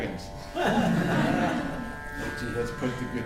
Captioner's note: laughter